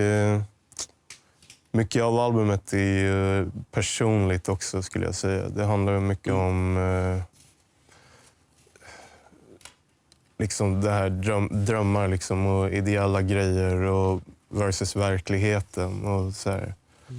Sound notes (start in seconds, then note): 0.7 smacks lips